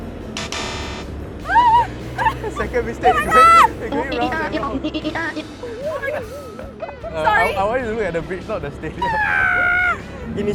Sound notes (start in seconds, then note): 1.4 shrieks; 9.0 crow noises